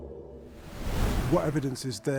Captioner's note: wind whooshing